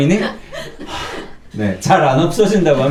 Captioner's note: sigh